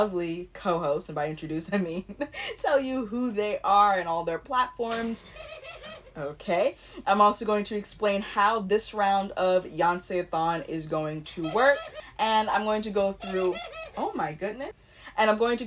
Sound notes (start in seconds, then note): 4.9 bird noises; 11.1 bird noises